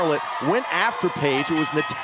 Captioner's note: bell ringing